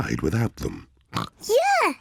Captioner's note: snorts